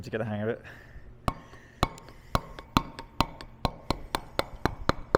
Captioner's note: metal hammering